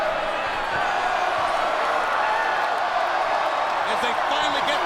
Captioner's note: audience cheers